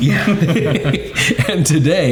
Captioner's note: all laughing